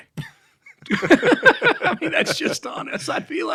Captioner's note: laughs